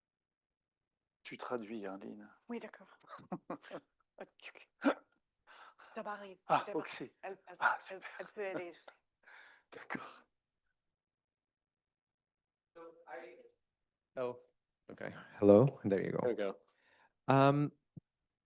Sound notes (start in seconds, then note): 1.5 speaking French; 3.1 laughs; 4.5 speaking French